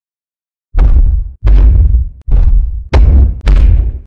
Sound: fe Fi Fo Thump Thump Thump

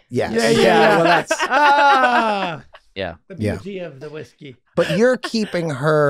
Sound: laughing

